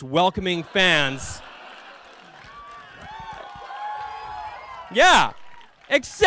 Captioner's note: cheering